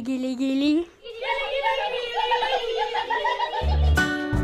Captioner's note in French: rires